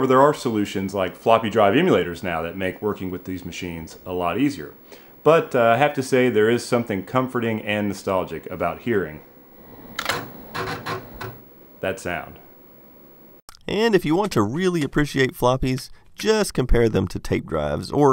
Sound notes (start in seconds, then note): 9.7 floppy drive clicks